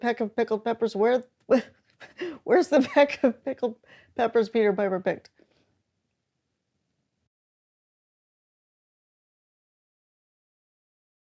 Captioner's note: laughs